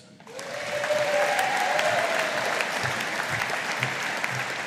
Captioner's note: audience applauding